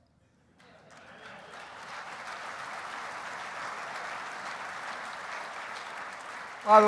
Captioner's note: applause